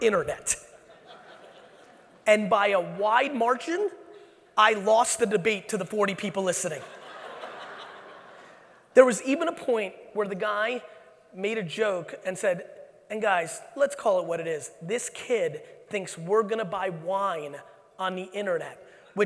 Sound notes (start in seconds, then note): 6.8 audience laughing